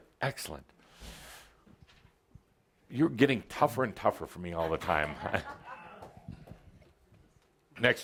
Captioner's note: some laughter